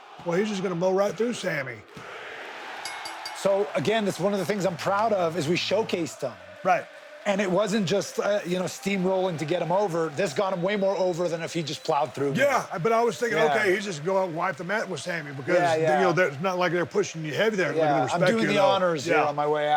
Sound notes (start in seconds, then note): 2.8 bell dings